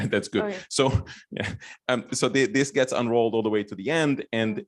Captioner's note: laughs